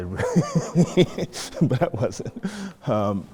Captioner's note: laughter